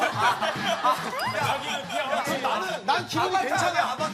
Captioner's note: haha